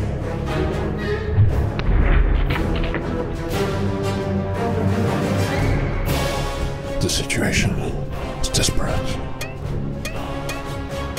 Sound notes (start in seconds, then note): 1.4 deep thud; 9.3 tick; 10.4 tick, tick, tick